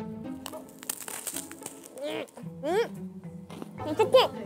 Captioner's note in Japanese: サクサク